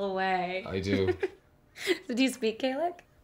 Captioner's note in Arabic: يضحك